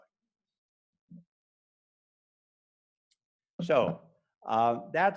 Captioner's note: silence